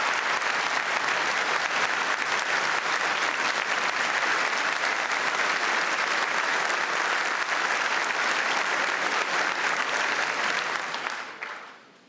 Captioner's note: applause